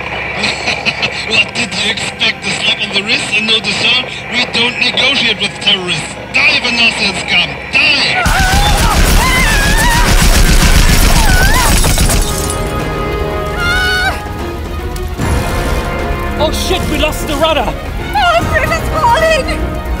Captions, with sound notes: *laughs* What did you expect? A slap on the wrist, and no dessert? We don't negotiate with terrorists! DIE, VANOSIAN SCUM! DIE! [gunshots] Aaaah! Oh shit! We lost the rudder! Oil Pressure's falling …